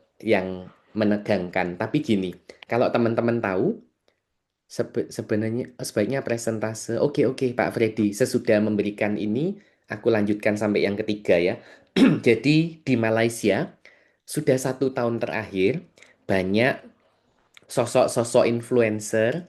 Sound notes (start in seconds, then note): 11.9 berdehem